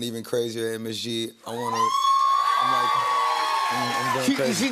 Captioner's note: cheers and applause